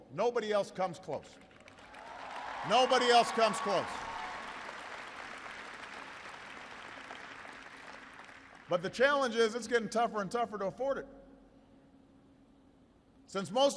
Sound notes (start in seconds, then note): 7.5 applause